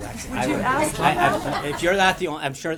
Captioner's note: laughter